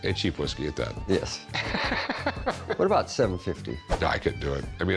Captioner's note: laughs